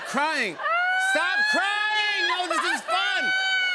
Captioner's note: mock crying continues